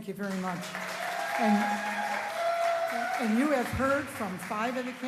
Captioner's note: applause